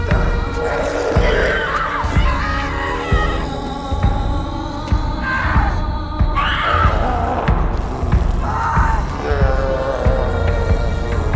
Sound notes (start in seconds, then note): 0.1 screams and snarls; 6.3 screams and snarls